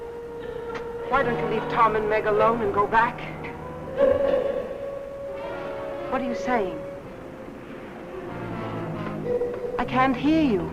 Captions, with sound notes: Why don't you leave Tom and Meg alone and go back? (faint muffled chatter) What are you saying? (faint muffled chatter) I can't hear you.